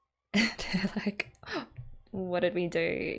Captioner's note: laughs